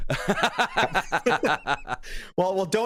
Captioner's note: laughter